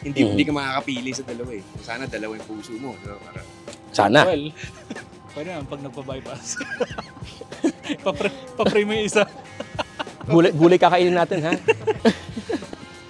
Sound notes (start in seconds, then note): 6.0 laughs; 9.8 continue laughing